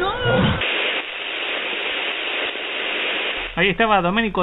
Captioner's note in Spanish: interferencia